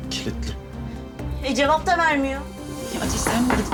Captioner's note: knocking on the door